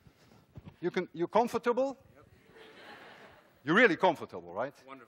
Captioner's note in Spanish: Los estudiantes se ríen